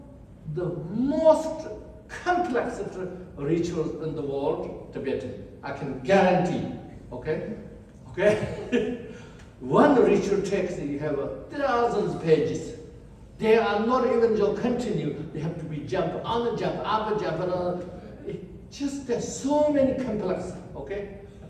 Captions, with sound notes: the most complex rituals in the world, Tibetan. I can guarantee, okay. Okay [laughs]. One ritual text, you have thousands pages. They are not even you continue. Have to be jump, another jump, another jump. Just so many complexities okay.